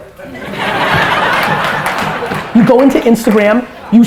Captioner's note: audience laughter